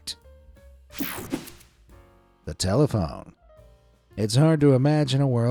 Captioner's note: air fizzing